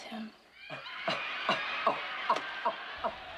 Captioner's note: laughing